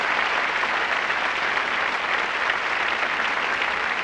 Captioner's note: applause